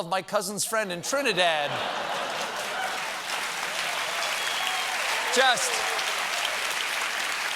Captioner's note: applause